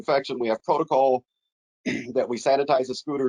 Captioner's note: clears throat